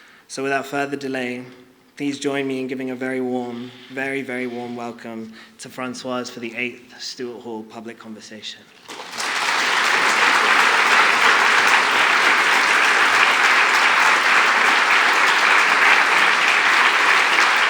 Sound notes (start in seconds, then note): 8.8 applause